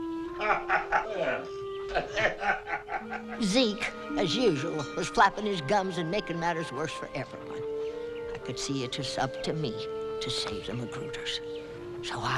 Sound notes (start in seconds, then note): 1.9 Hezekiah laughing